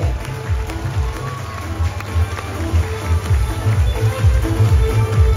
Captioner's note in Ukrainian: оплески